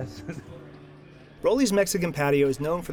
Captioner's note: chuckles lightly